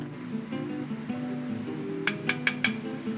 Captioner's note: tapping